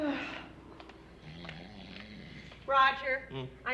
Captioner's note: snoring